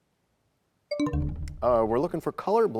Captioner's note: bell chimes, time expires